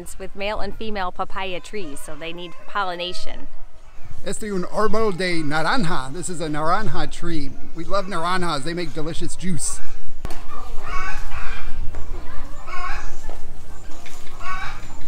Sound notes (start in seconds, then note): 10.4 chicken clucking